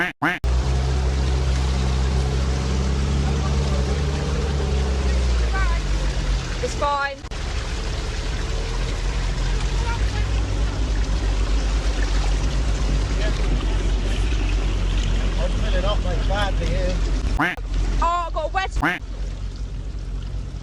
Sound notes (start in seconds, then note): 0.0 quack quack; 2.2 car engine rumbling continues; 9.8 car engine rumbling; 18.8 quack